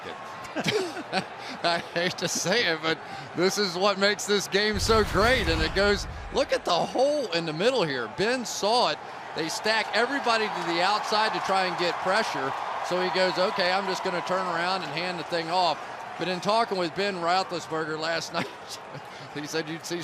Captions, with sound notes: I like it. [laughter] I hate to say it, but this is what makes this game so great. And it goes-- look at the hole in the middle here. Ben saw it. They stack everybody to the outside to try and get pressure. So he goes, OK, I'm just going to turn around and hand the thing off. But in talking with Ben Roethlisberger last night,